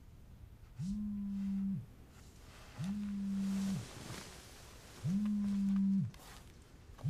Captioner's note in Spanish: Vibra el celular